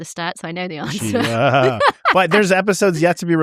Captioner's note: laughs